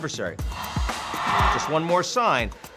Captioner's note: audience cheering